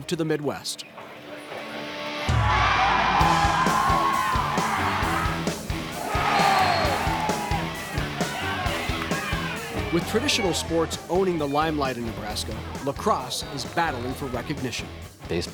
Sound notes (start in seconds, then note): 8.2 cheering; 8.2 upbeat rock music